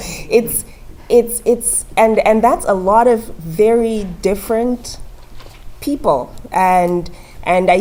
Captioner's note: laugh